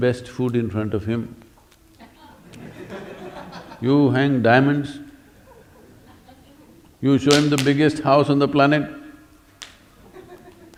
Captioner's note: laughter